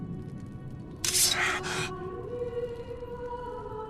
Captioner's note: sword scraping; Odysseus gasping; woman chanting